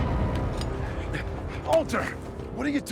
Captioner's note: Walter panting